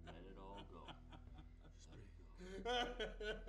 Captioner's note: sobbing